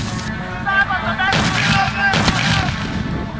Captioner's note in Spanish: Disparos